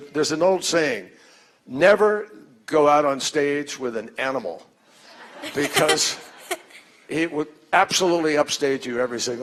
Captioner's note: laughter